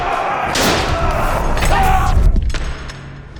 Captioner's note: bikers screaming; door slams shut